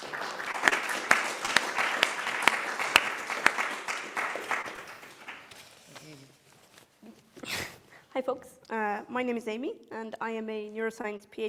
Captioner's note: applause